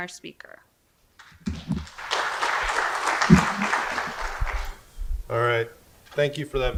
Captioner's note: audience applause